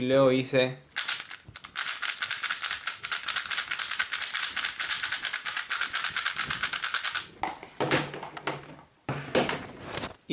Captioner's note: cube noise